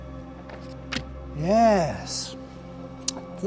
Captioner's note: paper flicking